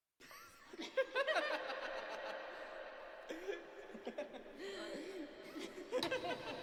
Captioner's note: boy & girl laughing